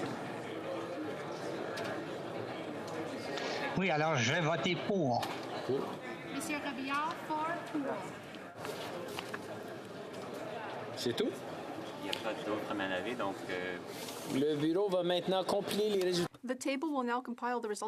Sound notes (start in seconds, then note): 0.7 speaking French